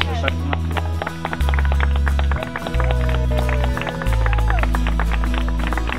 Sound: clapping

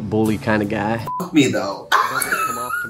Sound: beep; Trixie laughs

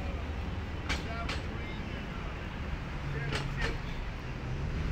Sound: metal clanging

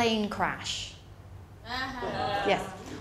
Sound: laughter

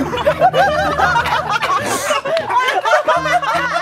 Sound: everyone starts laughing; the laughter doesn't stop

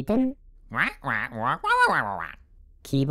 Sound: excited squawking

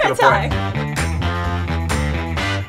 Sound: laughing

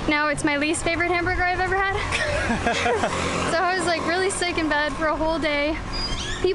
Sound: laughter

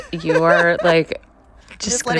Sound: laughter

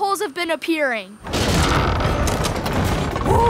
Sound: creaking

